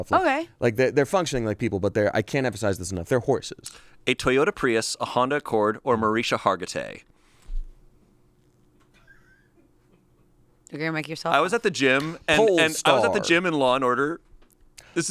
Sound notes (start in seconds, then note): 8.9 crew laughs